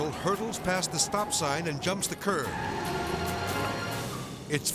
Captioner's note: tire screeches